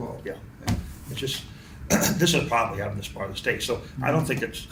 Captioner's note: clears throat